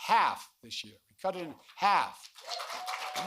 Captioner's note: applause